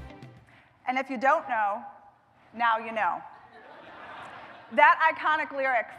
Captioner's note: laughter